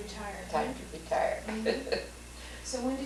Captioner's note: laughs